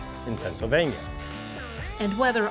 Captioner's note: buzzer